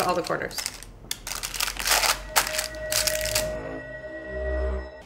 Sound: celestial buzzing

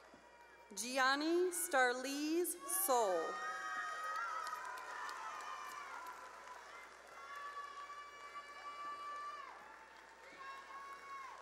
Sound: cheering and applause

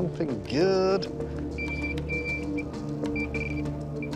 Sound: beeping

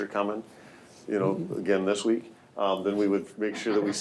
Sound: laughing

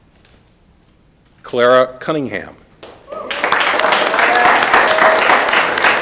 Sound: audience applauding

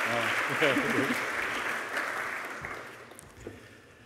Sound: chuckles

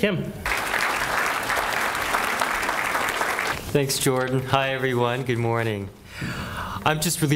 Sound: applause

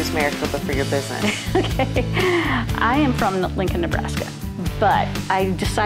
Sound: laughs

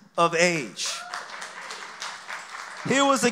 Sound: applause

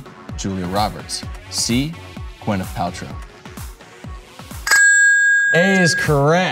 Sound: bell dinging

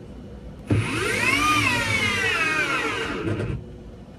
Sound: spinning sounds

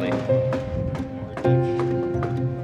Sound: hammers pounding

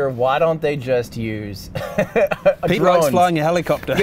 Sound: laughs

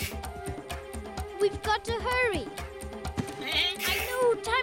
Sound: bleating

